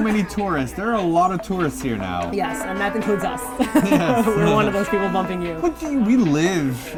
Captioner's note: laughs